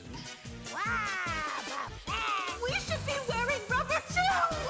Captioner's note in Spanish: exasperado